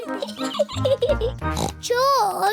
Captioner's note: giggles; snorts